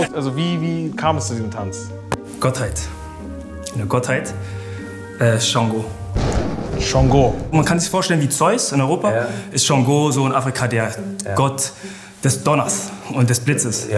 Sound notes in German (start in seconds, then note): 6.1 Donnerkrachen